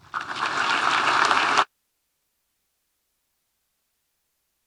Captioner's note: audience applauding